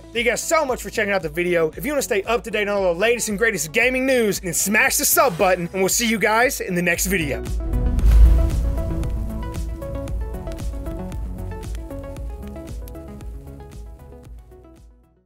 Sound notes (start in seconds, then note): 7.4 air whooshing; 7.5 upbeat music; 7.5 fire burning sound effect